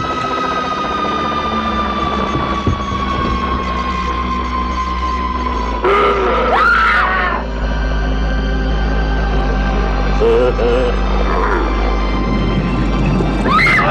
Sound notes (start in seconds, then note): 0.1 ominous sci-fi music; 5.8 screams; 6.3 alien growls; 10.1 laughs; 13.4 screams